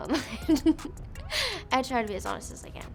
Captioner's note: laughs